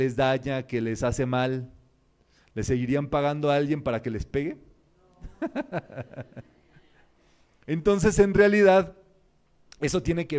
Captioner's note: laughs